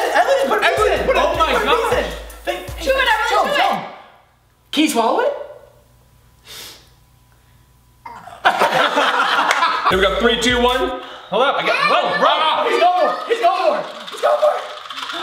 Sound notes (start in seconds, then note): 7.7 grunts; 8.4 laughter; 15.0 candy chattering